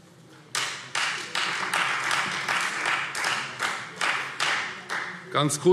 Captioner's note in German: Beifall Freie Demokraten